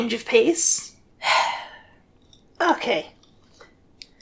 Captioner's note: sigh